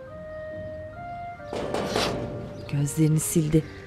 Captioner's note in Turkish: Kapı tıklama sesi